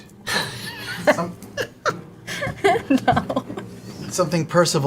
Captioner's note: laughing